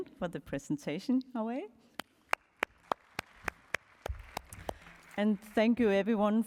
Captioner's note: applause